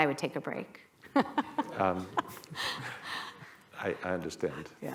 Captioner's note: laughter